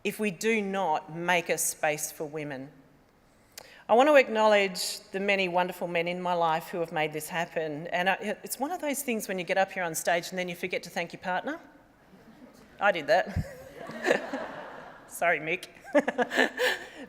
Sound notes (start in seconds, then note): 13.2 laughter